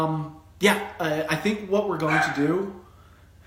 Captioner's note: chuckles